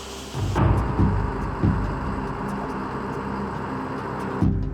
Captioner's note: machinery whirring